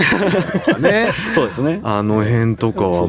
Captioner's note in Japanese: 笑い